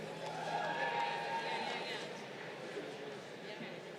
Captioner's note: crowd cheering